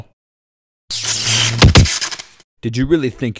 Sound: electrical sounds; thuds

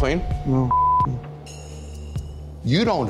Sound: beep

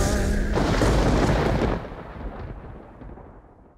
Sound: thunder booming

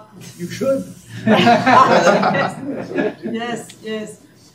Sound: attendees laughing

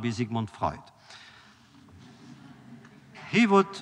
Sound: laughter

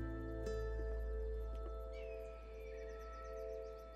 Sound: birds squawking

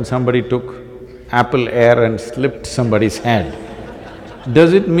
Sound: laughter

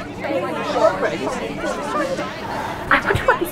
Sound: students chattering

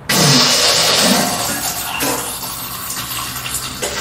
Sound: liquid running

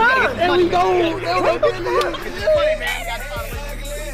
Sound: speaking away from mic

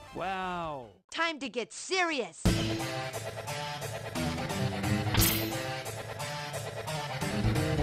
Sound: Mega Man X4 sound "time to get serious"

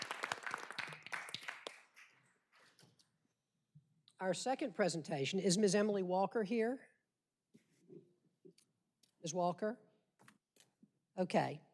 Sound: applause

